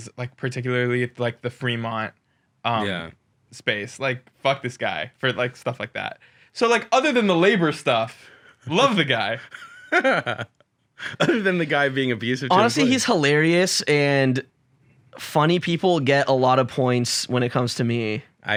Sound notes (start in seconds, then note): 9.1 laughs